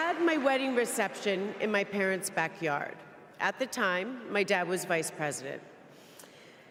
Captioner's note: applause